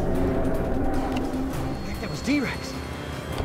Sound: roaring

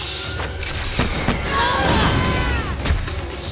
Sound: screaming

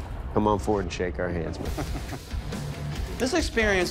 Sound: laughs

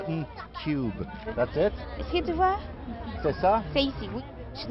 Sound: foreign dialogue

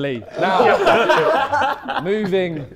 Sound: Sidemen laughing

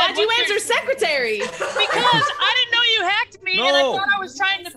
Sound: laugh

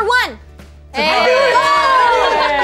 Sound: cheers

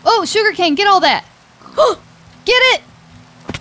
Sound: loud gasping

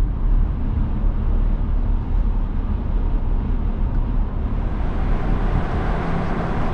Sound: drone

